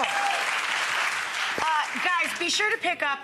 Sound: audience applause

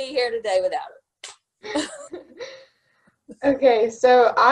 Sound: both laughing

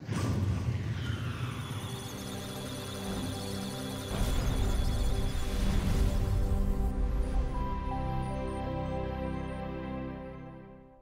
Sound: electronic sounds of data

